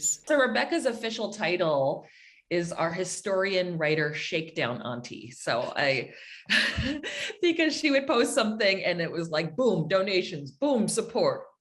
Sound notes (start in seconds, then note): 6.5 giggles